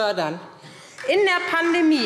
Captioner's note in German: Beifall SPD